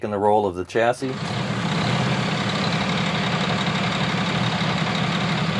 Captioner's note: engine revving